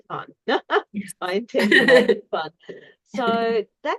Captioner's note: laughs